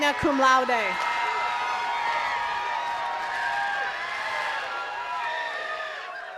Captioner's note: attendees cheering and clapping